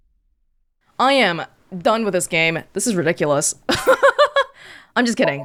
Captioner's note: chuckles